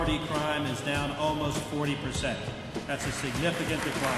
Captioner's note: applause